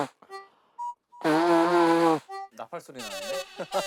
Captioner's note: blowing his nose